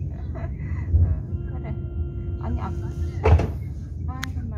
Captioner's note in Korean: 출입문 열림